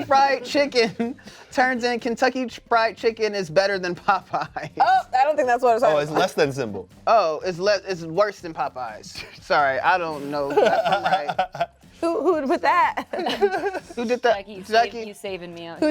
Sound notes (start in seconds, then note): 10.1 laughs; 13.0 laughs